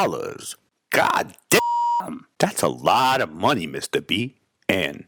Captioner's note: beep